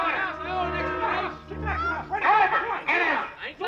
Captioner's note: clamoring